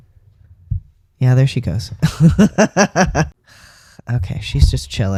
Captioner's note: laugh